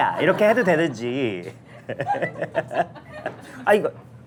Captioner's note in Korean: 껄껄껄